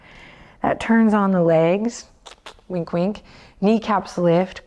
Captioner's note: clicks tongue